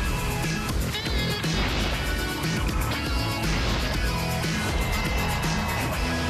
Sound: horns honking

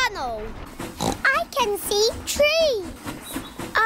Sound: oinks

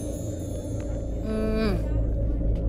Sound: satisfied sound

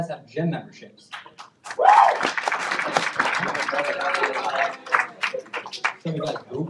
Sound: applause

